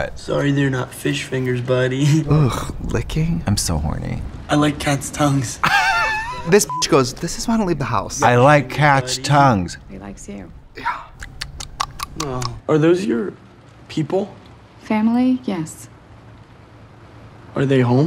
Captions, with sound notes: Sorry. They're not fish fingers, buddy. Licking. I'm so horny. I like cats' tongues. This (beep) goes, "This is why I don't leave the house." I like cats' tongues. He likes you. Are those your. People? Family? Yes. Are they home?